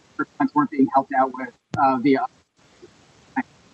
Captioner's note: audio distorted